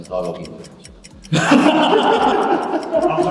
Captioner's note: everyone laughs